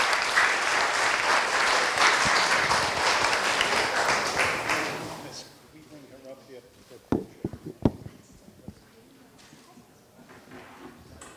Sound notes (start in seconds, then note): 5.9 murmuring